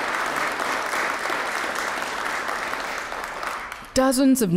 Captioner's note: applause